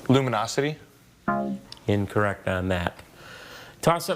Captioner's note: scoreboard buzzes